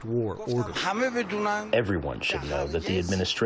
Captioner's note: through translator